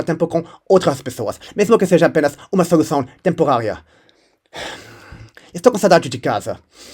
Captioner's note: sigh